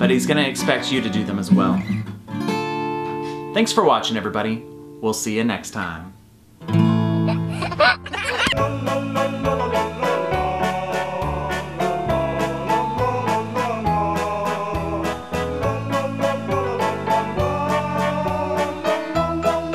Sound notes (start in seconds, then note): 6.5 light guitar music; 7.2 laughs